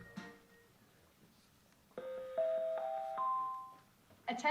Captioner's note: ding, ding, ding, ding